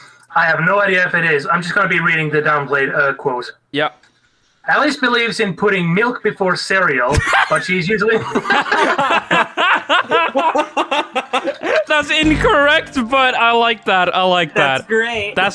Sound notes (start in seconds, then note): 7.1 breaks into laughter